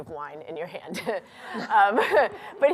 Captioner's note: laughter